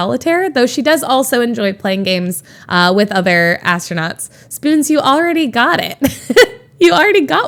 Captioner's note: Emma laughs